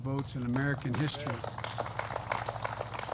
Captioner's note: applause